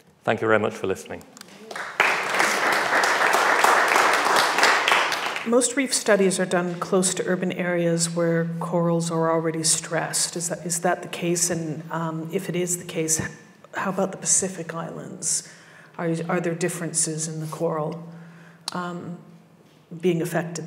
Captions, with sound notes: Thank you very much for listening. (audience applause) - Most reef studies are done close to urban areas where corals are already stressed. Is that the case? And if it is the case, how about the Pacific islands? Are are there differences in the coral being affected there?